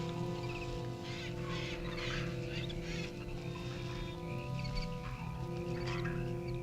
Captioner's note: tense orchestral music; animals chittering